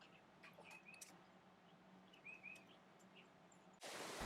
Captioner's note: birds chirping